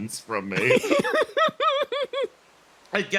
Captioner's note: giggles